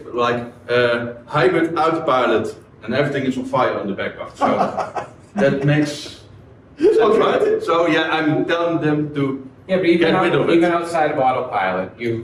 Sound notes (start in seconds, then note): 4.4 men laugh